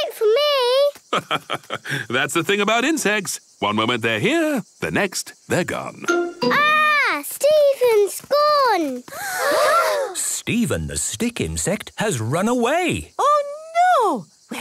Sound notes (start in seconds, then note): 9.4 gasps